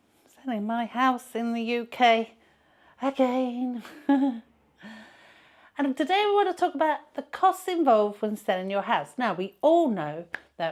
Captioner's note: sigh